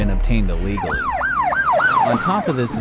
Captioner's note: police car